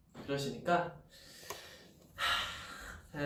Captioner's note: sigh